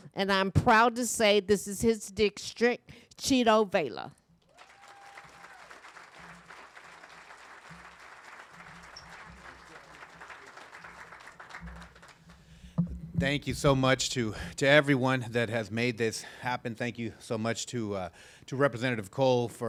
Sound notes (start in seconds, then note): 4.5 audience applauding and cheering